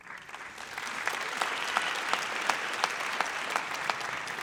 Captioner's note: audience applauds